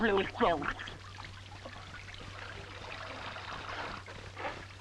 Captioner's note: water splashing